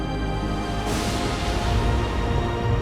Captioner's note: thunder crashing